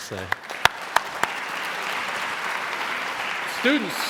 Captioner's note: applauding